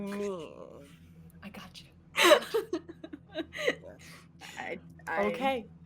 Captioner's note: laughing